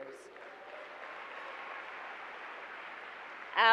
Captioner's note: applause